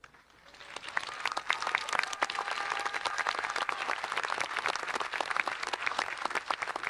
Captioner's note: audience applauding and cheering